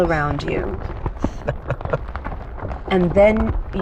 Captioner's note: chuckles